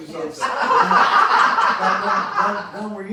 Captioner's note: laughs